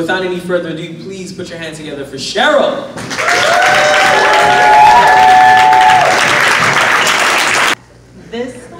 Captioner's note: applause/cheers